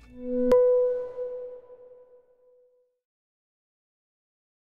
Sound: digital dinging

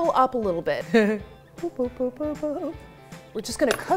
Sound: giggling

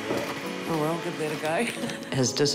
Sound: laughs

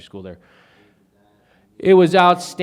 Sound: faintly speaking

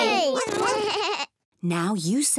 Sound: all make animal sounds

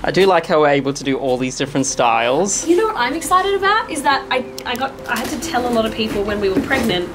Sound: none

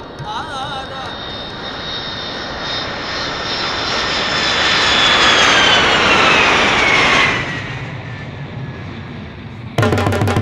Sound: plane landing

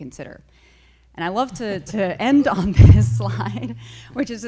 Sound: chuckles

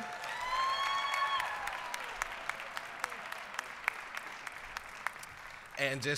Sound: applause, cheering

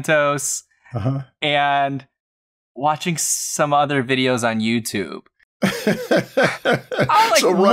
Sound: laughter

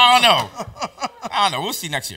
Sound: laughs

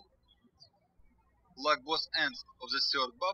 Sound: birds chirping

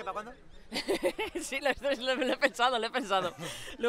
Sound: laughter

